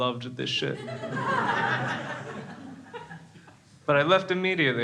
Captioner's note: crowd laughs